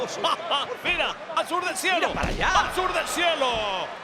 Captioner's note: laugh